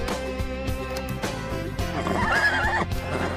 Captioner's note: neighs